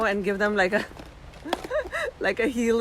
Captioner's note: giggling lightly